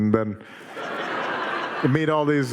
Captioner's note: audience laughing